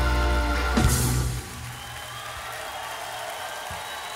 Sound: crowd cheering

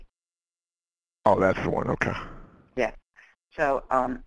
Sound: voiceover

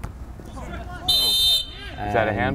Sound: whistle blows

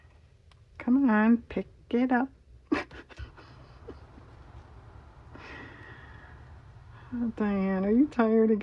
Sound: laughs

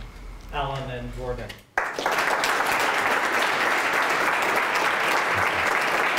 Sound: applause

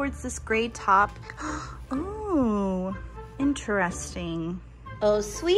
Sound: gasps

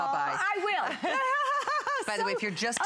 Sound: laughter

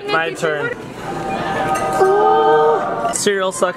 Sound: angelic sound effect

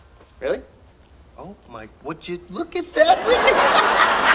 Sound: laughs; audience laughing

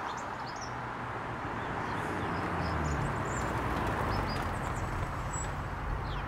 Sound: car approaching

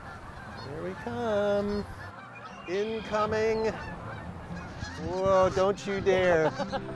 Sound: sound of geese / Music

